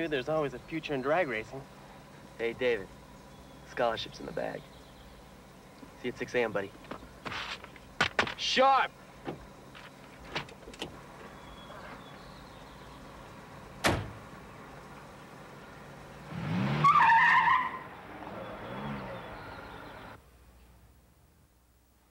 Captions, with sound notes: there's always a future in drag racing. - Hey David, scholarship's in the bag, see you at 6AM buddy, sharp! (birds chirping) (door thuds) (engine revs) (tires squeal)